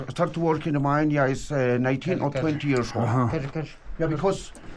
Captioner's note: foreign language